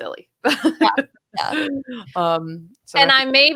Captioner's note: laughing